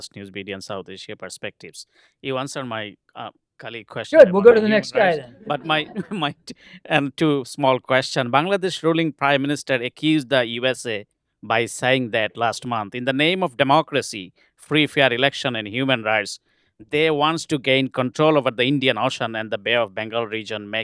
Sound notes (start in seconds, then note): 5.3 laughter